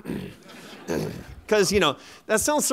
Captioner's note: laughter